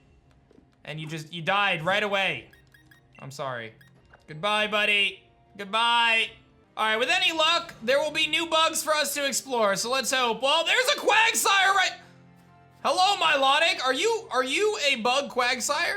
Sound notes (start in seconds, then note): none